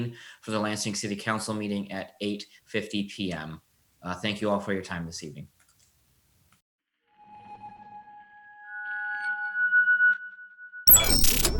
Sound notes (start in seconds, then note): 7.3 electronic chirping